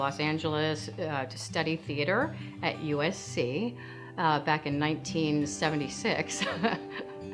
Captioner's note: laughing